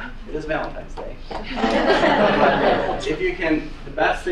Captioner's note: student laugh